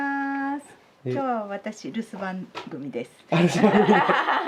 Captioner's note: laughs